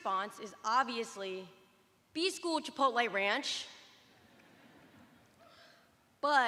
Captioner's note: laughter